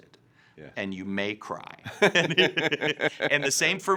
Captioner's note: both laughing